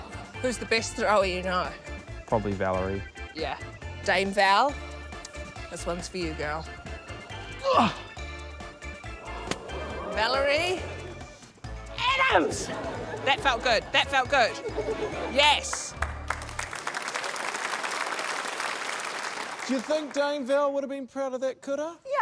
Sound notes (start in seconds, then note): 7.7 grunts; 15.6 applause